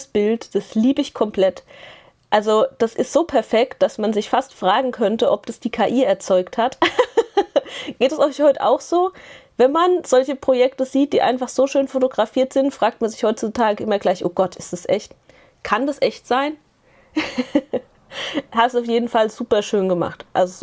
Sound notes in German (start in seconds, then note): 6.8 gelächter; 17.1 gelächter